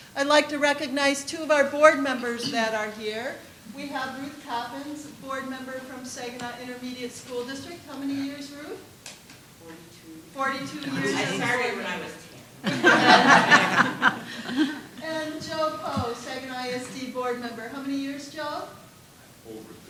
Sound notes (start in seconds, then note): 12.6 laughter